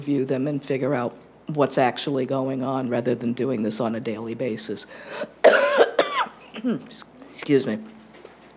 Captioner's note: coughs